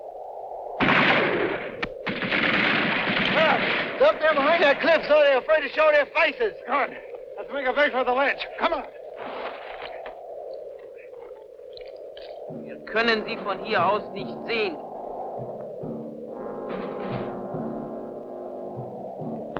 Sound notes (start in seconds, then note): 12.9 speaking in a foreign language